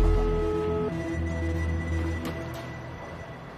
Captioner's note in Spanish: Tono de llamada